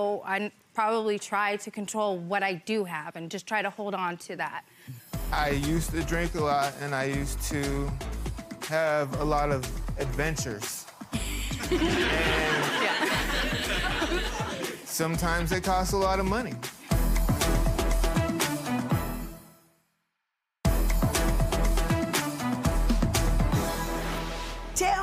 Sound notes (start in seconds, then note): 11.3 people laughing; 20.6 upbeat intro music